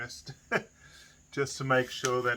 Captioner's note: chuckling